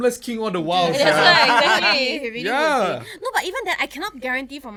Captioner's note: agree in unison